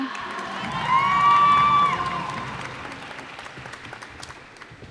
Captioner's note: cheers and applause